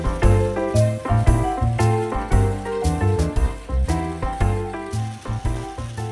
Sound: electric current

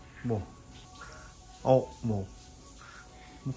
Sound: boiler

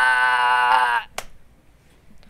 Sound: smack

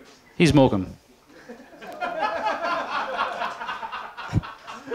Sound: laughter

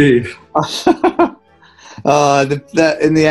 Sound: giggling

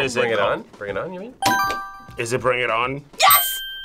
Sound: buzzer rings

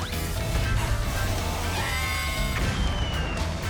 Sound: screeches; both scream

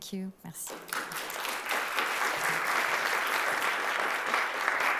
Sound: applause

